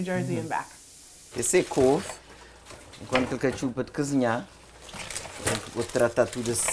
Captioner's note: speaking portuguese